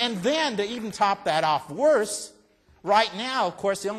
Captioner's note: applause